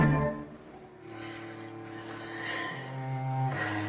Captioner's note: panting